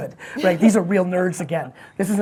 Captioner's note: laughs